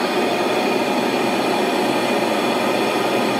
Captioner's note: hiss